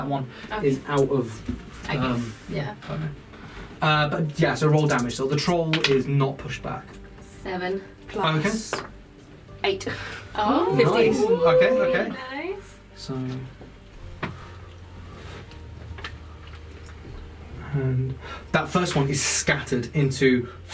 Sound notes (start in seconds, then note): 10.4 various "oohs" and "nice"s; 19.7 air fwooshing sound